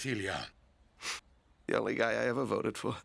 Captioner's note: sniffs